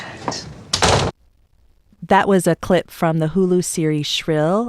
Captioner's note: soundbite of door slamming